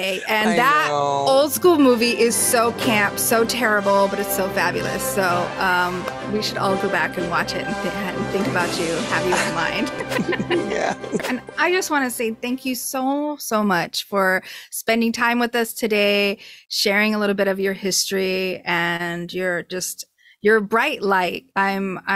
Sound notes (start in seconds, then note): 4.4 epic superhero music plays; 9.0 laughing